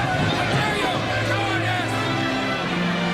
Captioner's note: crowd clamoring